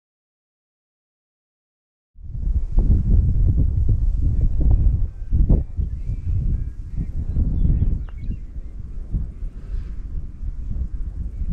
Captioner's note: wind Blowing, Swooshing Sounds